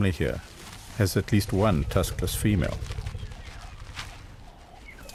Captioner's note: animals calling